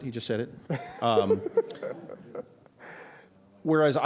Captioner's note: laughs